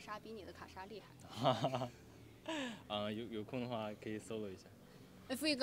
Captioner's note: laughs